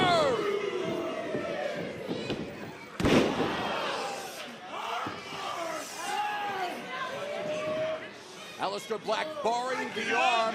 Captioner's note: crowd chatter